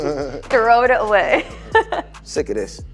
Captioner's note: laughs